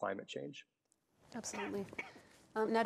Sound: audience member coughing

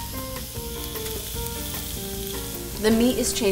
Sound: food sizzling

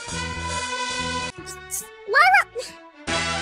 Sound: hmphs

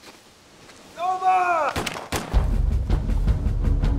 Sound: gunshots firing; suspenseful music

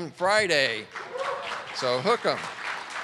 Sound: audience clapping

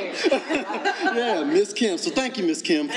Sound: panelists laughing

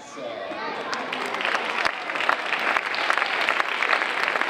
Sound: audience applauding

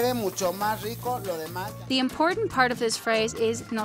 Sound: chef speaks in Spanish

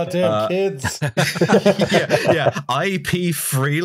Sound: laughter

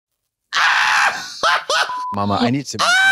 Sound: Trixie yawps

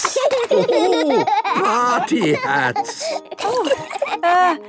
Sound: laughing

